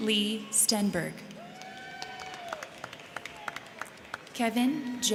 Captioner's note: crowd cheering; crowd clapping